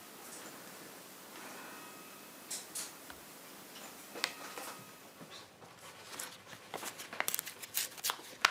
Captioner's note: distant church bells